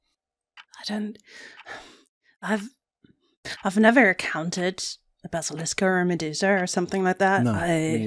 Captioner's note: sighs